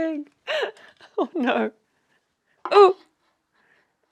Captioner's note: laughs